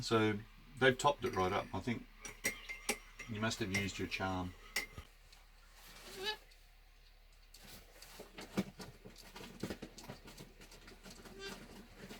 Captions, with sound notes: - So, they've topped it right up. I think you must have used your charm. (squawks)